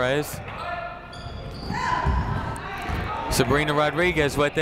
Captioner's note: people shouting in the crowd